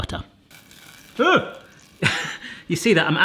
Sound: butter sizzling in pan

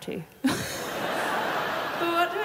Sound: laughs

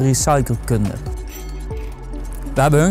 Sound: ringing sound

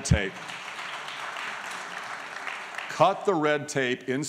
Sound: applause

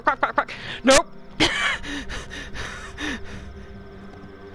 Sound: laughter

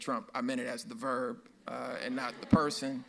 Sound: audience laughs

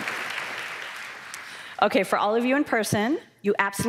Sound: cheers

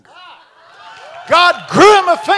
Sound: congregation shouting

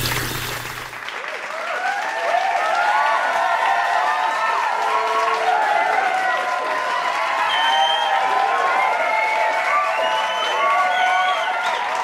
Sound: cheering and clapping

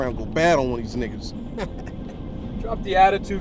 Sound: laughs

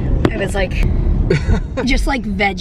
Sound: chuckles

